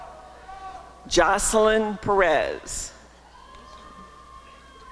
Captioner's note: applause and cheering